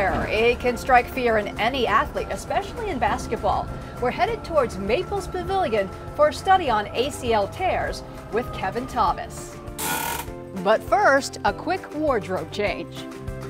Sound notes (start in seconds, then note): 9.8 handbrake cranks